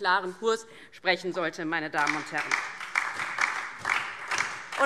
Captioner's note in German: Beifall DIE LINKE